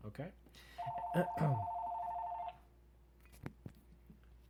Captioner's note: phone rings